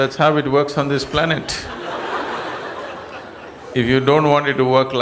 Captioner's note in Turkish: gülüşler